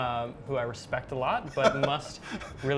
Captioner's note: laughing